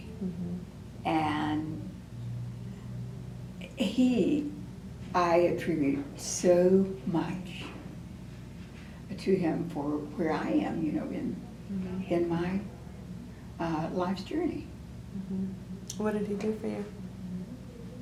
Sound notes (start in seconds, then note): none